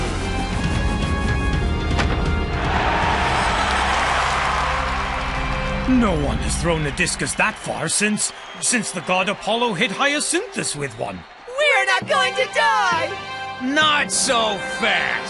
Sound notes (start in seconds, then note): 2.6 applause